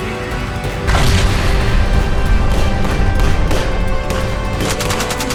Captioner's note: explosion bangs; gunfire rattling